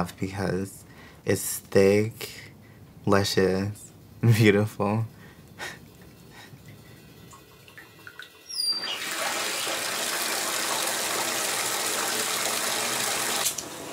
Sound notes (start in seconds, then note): 7.6 faucet squeaking; 9.9 water splashing